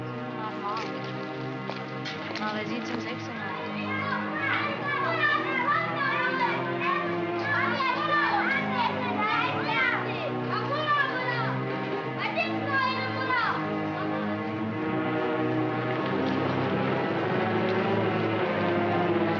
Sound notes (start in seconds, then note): 0.3 ominous sinister music; 0.3 speaking in German; 3.4 children shouting; 3.8 ominous sinister music